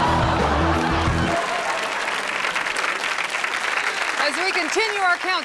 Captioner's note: audience applauds